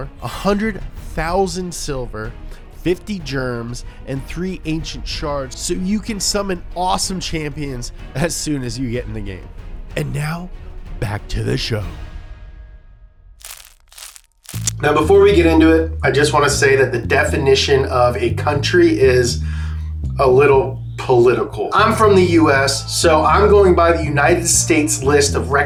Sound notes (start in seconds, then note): 13.4 chewing